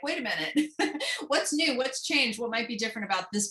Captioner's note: laughter